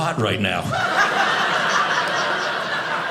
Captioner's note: audience laughing